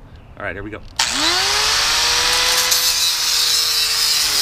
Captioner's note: grinder whirring